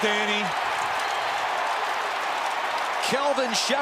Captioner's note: cheering